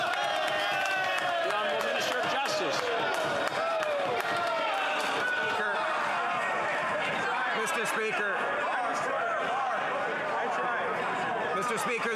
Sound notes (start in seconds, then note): 5.4 yelling